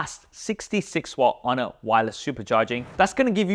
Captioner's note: air whooshes